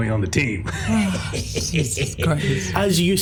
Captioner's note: sighs